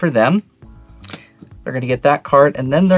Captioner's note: card slaps